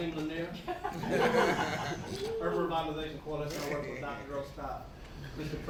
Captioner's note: laughter